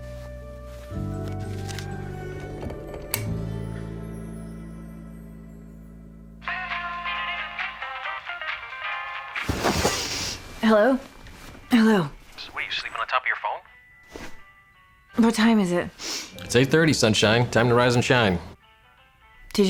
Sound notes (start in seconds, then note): 6.6 phone ringing